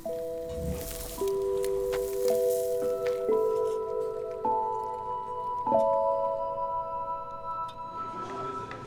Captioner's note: sizzling